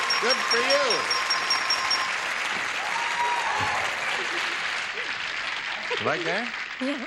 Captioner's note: applause